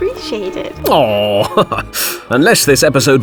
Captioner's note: chuckle